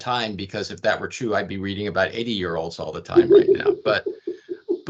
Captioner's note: laughing